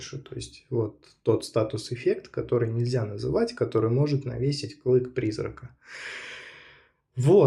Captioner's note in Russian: тяжело вздыхает